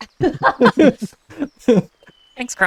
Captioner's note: laughter